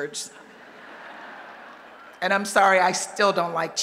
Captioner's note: laughter